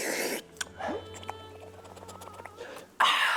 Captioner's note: soup ASMR